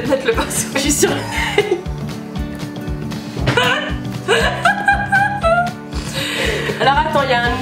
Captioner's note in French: rires